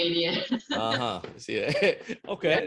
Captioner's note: laughing